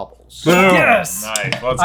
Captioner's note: ding